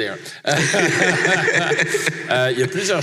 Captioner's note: laughs